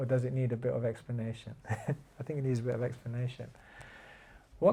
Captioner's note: chuckles